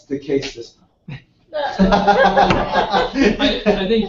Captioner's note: laugh